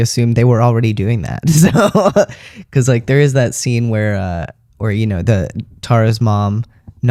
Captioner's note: laugh